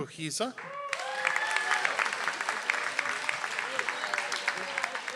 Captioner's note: audience applauds